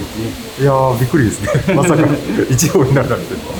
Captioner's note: laughs